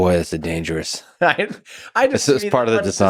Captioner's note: Tim laughs